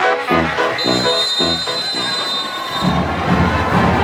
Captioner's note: whistle blows